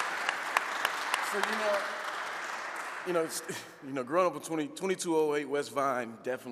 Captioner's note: audience applauding